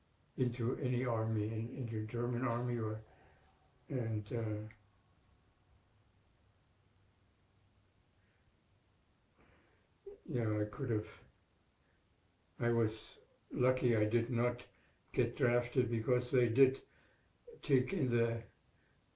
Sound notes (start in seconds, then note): 4.6 pauses 6 seconds